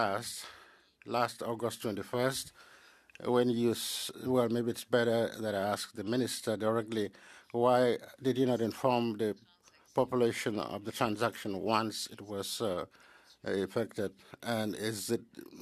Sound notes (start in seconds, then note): 3.7 speaking French